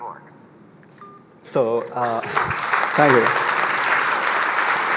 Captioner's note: applause